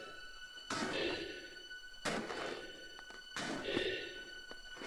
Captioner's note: Chemock breathes heavily